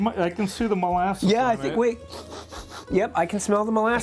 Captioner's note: bright rhythmic music; sniffing